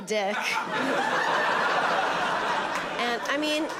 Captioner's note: audience laughing